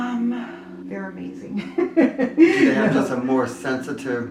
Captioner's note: laughing